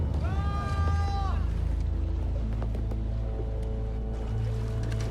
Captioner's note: distant yelling